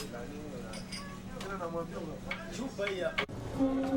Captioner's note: glasses clinking; passengers chatting; liemba horn blaring